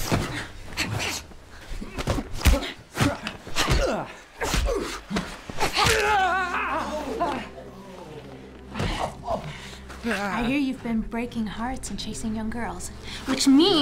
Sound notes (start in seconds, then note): 0.3 grunting; 5.1 cracking